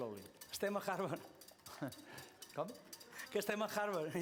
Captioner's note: non-english speech